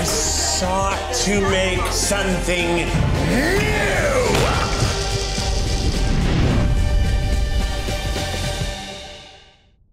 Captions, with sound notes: - I sought to make something new! (dramatic music) (fire blasting)